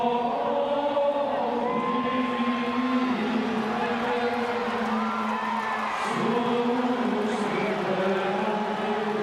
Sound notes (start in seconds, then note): 0.2 group chanting; 1.4 audience cheering; 6.4 group chanting